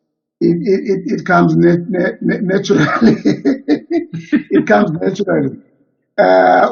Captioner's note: chuckles